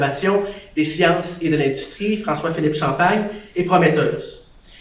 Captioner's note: speaks French